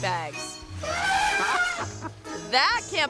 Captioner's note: elephant trumpeting; people laughing